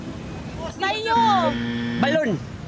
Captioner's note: buzzer blares